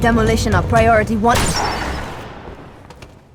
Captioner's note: gunshot